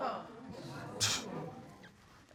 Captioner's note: scoffs